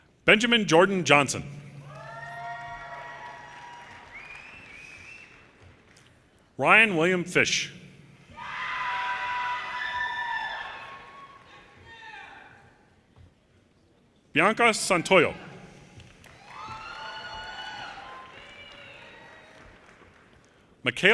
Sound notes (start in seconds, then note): 1.8 audience cheers and applause; 8.3 audience cheers and applause; 15.9 audience cheers and applause